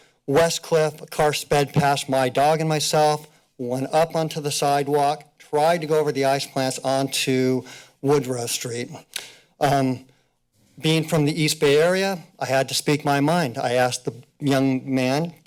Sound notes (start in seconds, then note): none